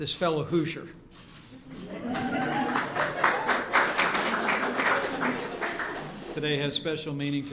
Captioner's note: applause